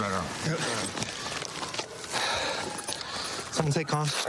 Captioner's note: sirens blaring